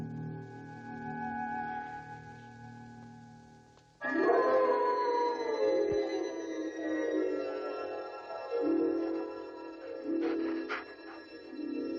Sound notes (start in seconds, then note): 4.0 wolf howling; 4.3 haunting music